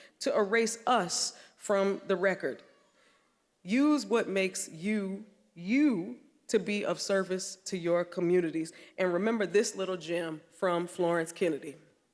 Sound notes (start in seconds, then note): none